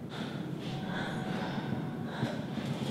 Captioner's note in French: Le groupe respire fortement